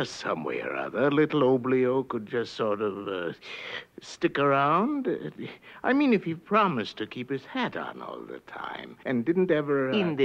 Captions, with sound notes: little Oblio could just, sort of (inhales) stick around? I mean, if he promised to keep his hat on all the time and didn't ever-- - In this stead, my King,